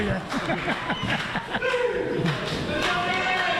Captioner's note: laughing